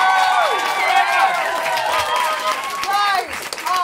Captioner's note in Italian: applausi